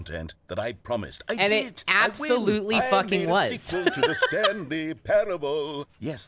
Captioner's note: laughs